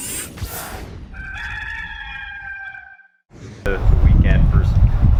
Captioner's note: rooster crows